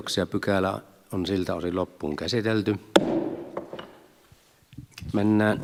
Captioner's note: Nuijan kopautus